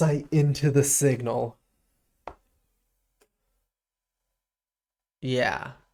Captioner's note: silence